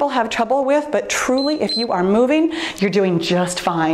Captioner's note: timer beeps